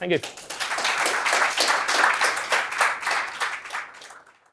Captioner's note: applause